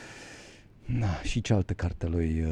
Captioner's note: sigh